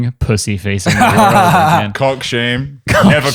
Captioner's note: laughing